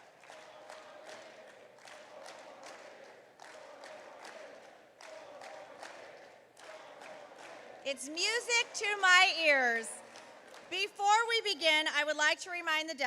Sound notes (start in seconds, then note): 4.1 chanting